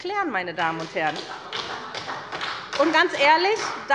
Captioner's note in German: Beifall bei der SPD